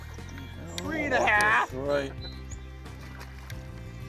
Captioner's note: voiceover